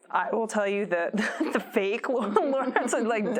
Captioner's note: laughs